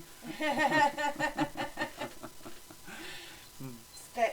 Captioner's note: laugh